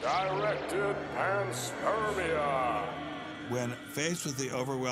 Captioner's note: man reads in ominous voice